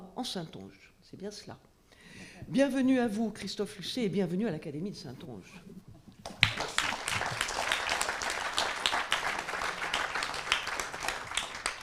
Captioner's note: applause